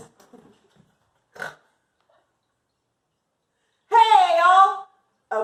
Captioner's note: snorts